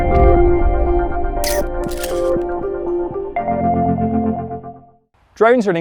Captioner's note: camera shutter clicks